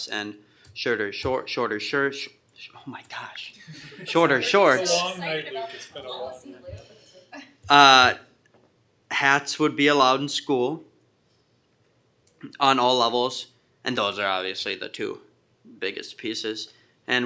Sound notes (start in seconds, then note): 5.3 group laughter